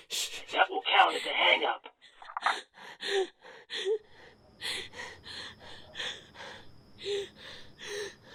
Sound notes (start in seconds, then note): 3.6 heavy breathing